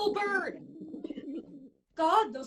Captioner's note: pigeon sounds